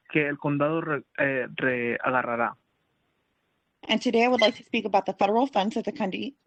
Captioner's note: speaking Spanish